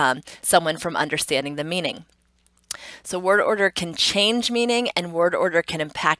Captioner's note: tongue clicks